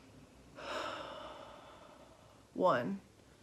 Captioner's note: exhaling; inhaling